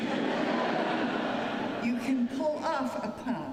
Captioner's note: laughter